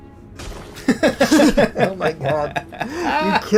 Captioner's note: laugh